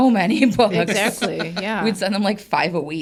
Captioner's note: everybody laughs